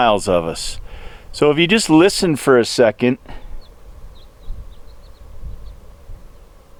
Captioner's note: bird chirping